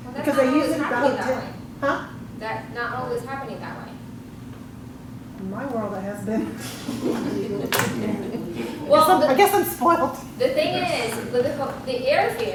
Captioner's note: laughs